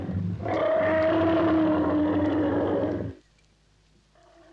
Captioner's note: lion growls; elephant trumpets